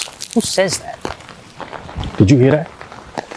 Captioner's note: footstep patters